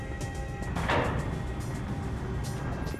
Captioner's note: doors closing